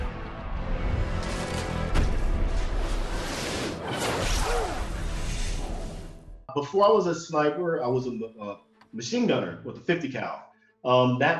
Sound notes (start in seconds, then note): 2.6 man grunts; 3.7 bullet whooshes